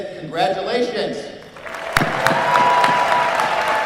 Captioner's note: applause